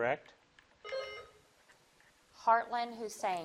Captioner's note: bell dings